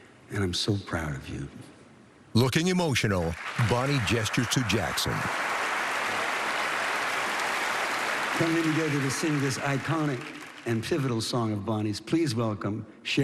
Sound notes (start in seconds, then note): 3.2 cheering and applause